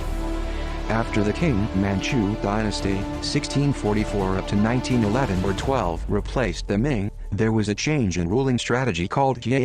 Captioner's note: manchu